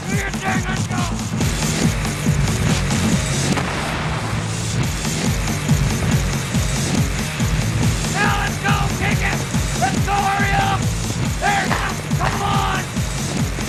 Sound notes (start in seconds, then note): 1.9 heavy metal music; 2.9 grenade explodes; 5.9 heavy metal music; 13.4 heavy metal music